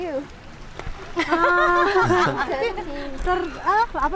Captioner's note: laughs